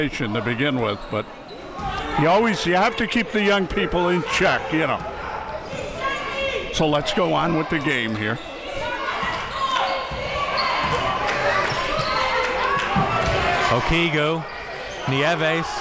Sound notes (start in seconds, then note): 10.4 crowd